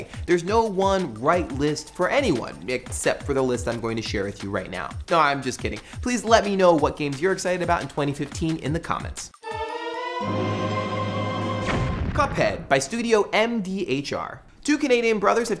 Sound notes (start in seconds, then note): 9.4 dramatic music; 11.5 explosion